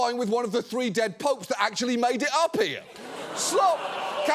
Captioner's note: audience gasps, laughs